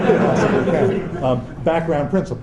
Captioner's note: laughter